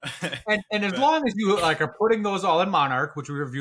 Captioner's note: laugh